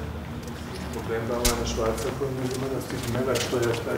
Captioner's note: soft conversation